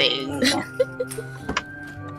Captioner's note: giggles